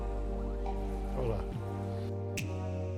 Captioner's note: in Portuguese